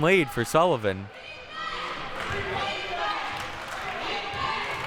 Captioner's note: clapping